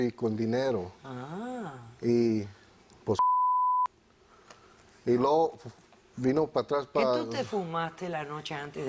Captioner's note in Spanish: Bip